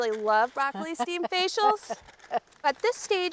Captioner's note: laughing